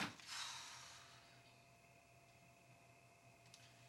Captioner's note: exhales